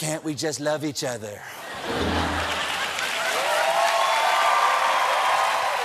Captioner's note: laughter; cheers and applause